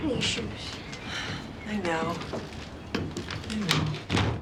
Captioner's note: sighs